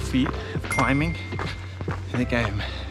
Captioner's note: bell dings